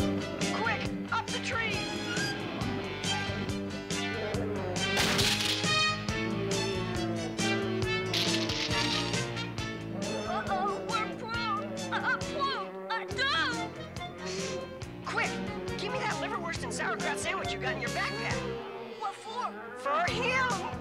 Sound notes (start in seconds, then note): 3.6 bear roars